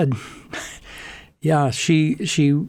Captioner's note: laughing